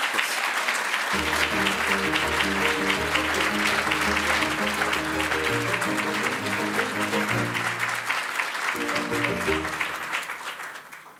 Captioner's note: applause